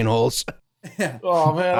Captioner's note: laughs